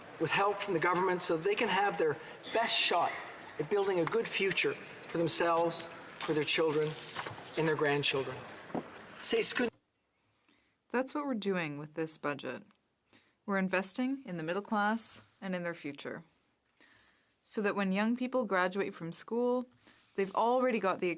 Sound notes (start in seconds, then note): 14.5 speaking French